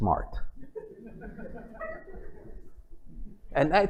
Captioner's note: laughter